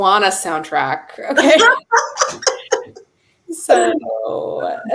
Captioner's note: laughter